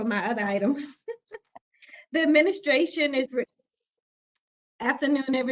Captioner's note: laughter